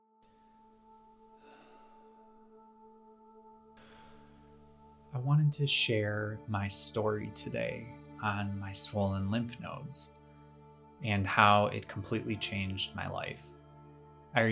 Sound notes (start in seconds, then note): 0.2 gentle music; 1.4 sighs